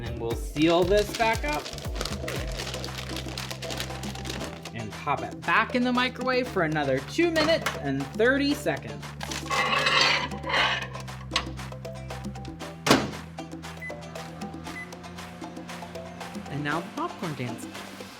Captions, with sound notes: And then we'll seal this back up. (paper crinkles) And pop it back in the microwave for another two minutes and 30 seconds. And now the popcorn dance.